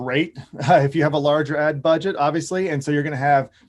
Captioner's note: chuckles